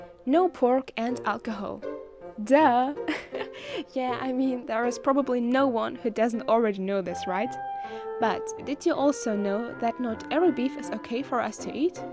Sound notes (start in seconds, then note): 3.0 giggles